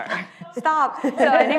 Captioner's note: laughs